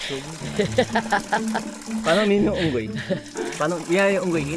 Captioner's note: laughs